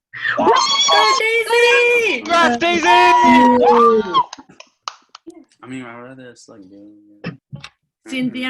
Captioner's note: cheering